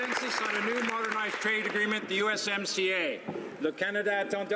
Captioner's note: applause